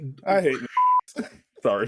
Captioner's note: beep